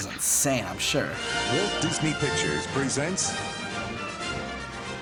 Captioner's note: voice-over